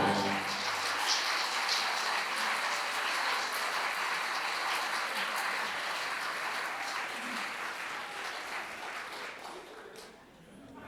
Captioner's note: applause